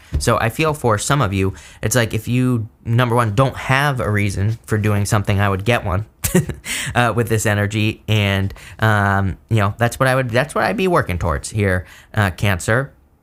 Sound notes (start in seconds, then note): 6.5 laughs